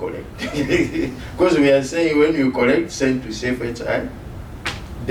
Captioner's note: laughs